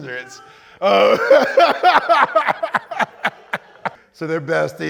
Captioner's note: laughter